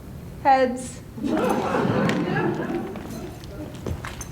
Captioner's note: laughter